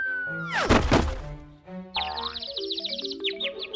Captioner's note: birds chirping